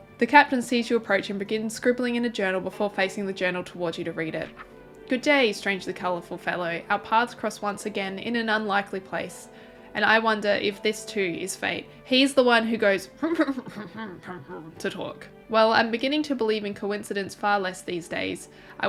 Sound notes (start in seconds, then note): 13.4 mumble hrmm-ing